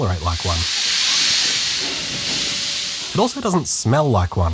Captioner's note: gentle steam acceleration noises